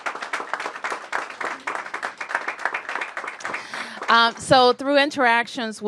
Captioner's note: applause